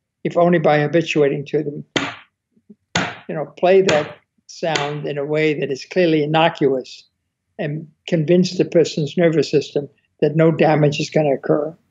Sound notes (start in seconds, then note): 2.8 loud thumps